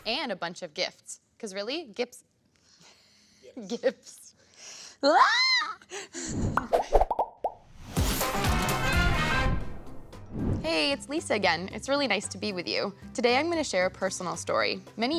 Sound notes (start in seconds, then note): 3.5 laughs; 5.1 exclaims; 7.9 upbeat music